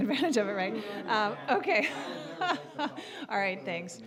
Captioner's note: general chatter; scattered laughing